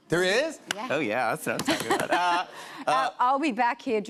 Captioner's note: laughs